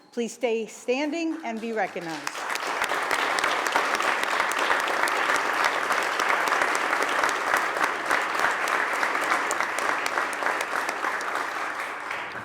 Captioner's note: applause